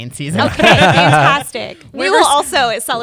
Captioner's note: laughter